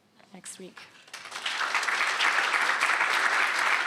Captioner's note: applause